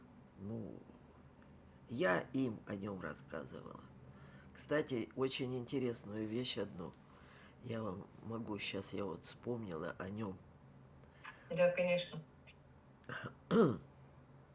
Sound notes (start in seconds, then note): 13.1 coughing